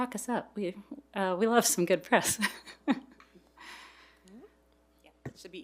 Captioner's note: chuckles